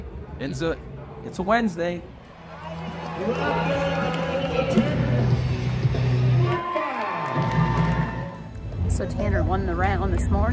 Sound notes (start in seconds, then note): 2.1 crowd cheering; 3.1 loudspeaker bellowing